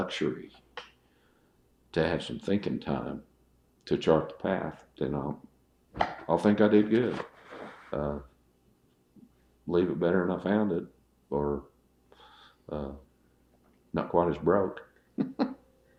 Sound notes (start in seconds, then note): 15.1 laughs